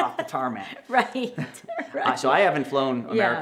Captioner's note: both laugh